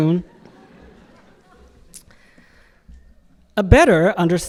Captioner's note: audience laughing